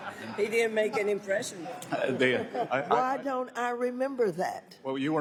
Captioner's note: laughter